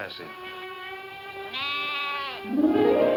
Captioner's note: lambs bleating; soft music